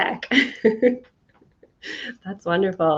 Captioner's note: chuckling